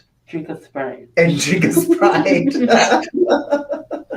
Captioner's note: laughs; group laughs